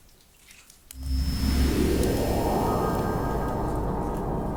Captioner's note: wind whooshing